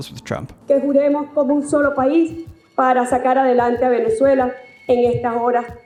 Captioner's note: VP speaks foreign language